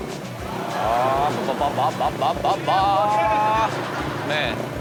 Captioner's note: Rob imitates revving engine; audience laughs